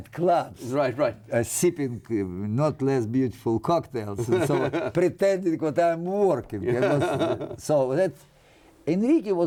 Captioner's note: laughter